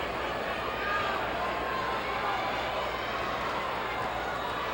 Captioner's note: audience chattering